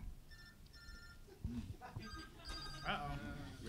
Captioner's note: cellphone ringing